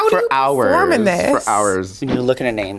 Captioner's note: air whooshing